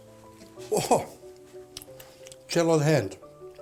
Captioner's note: chewing